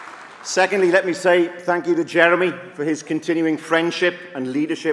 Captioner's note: applause